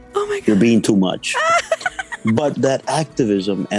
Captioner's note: laughter